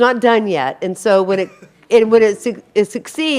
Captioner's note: audience member coughs